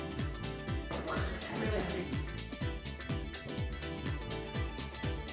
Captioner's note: mimics explosion noise